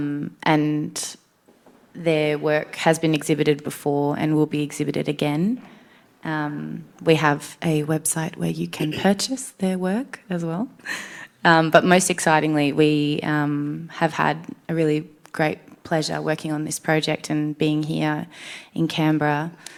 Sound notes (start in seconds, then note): none